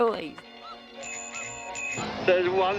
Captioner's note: bell ringing